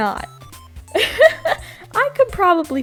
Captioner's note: laughs